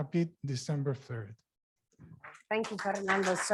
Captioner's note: applause